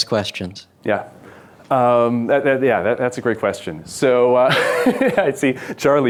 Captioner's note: laughs